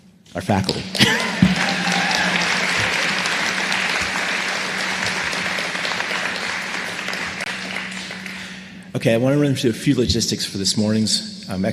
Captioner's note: applause